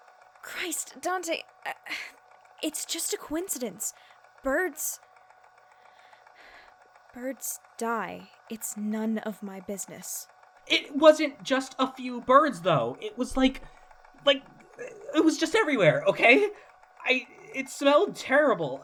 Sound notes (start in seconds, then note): 2.9 stammers; 5.7 takes a deep breath